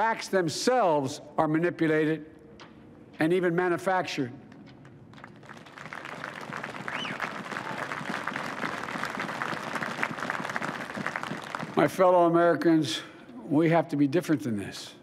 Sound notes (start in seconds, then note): 5.1 applause